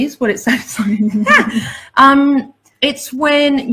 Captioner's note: laughs